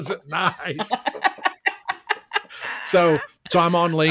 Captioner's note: laughs